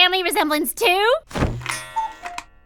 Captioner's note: cuckoo clock sounds